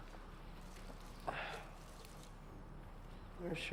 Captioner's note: sighs